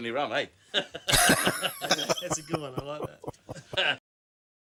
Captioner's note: laughing